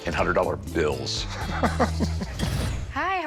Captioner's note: chuckles